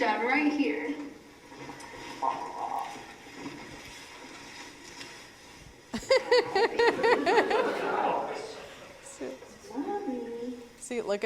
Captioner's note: laugh